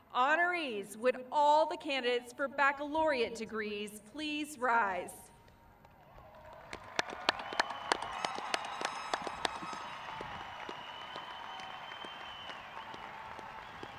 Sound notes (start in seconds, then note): 6.0 crowd cheering